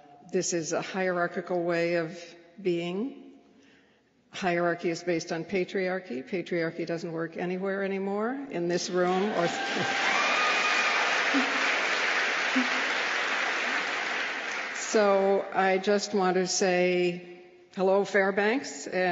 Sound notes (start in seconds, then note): 9.0 applause